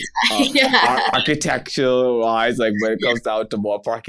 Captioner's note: laughs